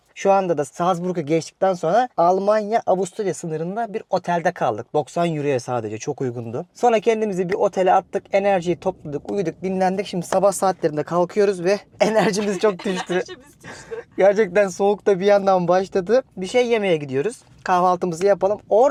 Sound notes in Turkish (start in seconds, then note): 12.0 kahkaha